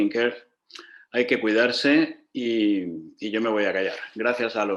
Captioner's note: in Spanish